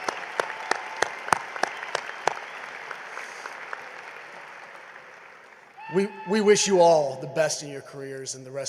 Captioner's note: applause